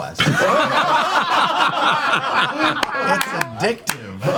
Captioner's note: all laugh